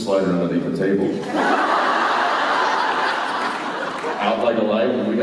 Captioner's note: laughter